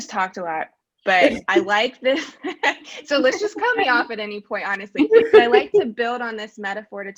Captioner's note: laughing